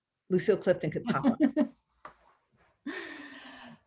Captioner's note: laughs